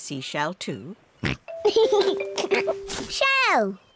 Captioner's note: oinks and giggles